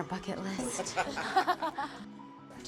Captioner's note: laughter